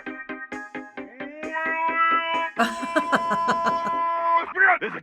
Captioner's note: laughter